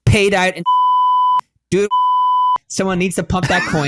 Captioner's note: beep